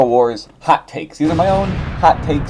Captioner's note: explosion noise